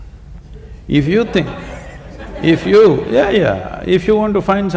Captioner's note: laughter